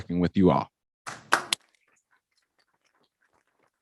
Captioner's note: all clap